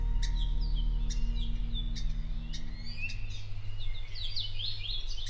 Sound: birds chirping

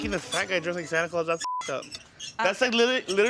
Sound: beep

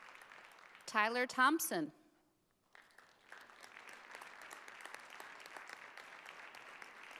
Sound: audience applauding

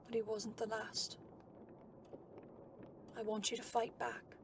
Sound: none

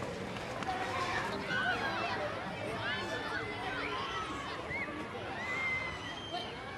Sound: animated chatter and laughter

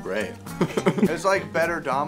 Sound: laughs

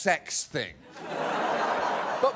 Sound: audience laughs

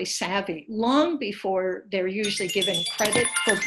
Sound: phone chiming

